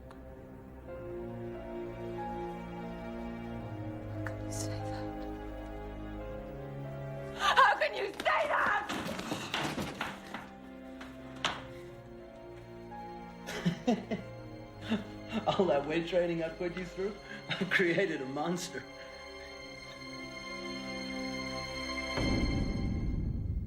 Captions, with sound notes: (tense music continues) - How can you say that? How can you say that? (supplies clatter) (Matthew laughing) - All that weight training I put you through, I created a monster. (tense music intensifies)